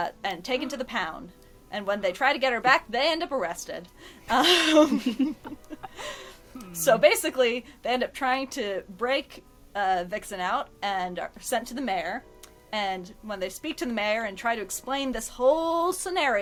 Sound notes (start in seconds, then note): 4.3 laughs